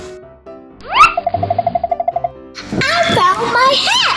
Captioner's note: cartoony blooping; quick tapping